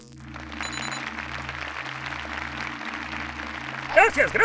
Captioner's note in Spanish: Aplausos